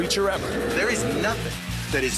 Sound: growls

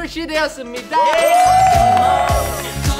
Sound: big round of applause

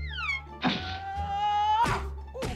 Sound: screams

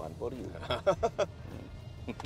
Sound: chuckles

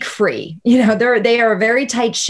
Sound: laughing

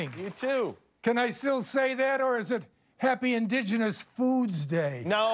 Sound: cheers and applause

